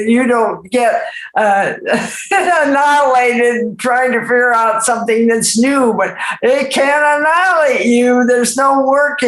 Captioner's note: laughs